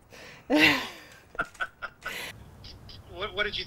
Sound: laughter

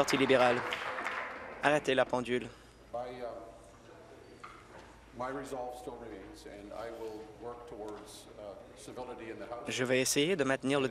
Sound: applause

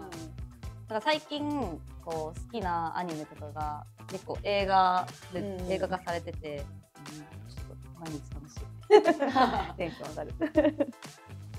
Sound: laughs

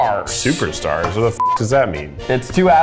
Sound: beep

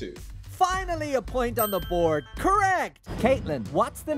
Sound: bell dings

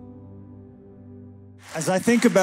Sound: applause

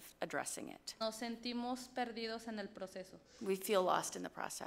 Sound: speaks foreign language

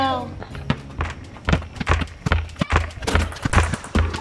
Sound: ball dribbling

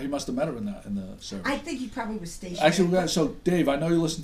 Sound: voiceover

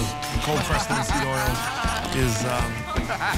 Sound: laughing

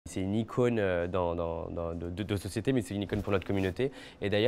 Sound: Nicky speaking French

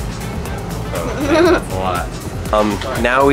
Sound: laughs

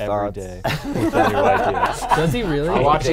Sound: laughing

